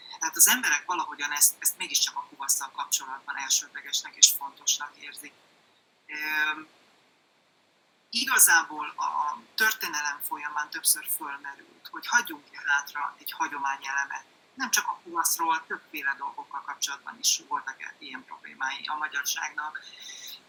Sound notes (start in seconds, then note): 8.9 Hungarian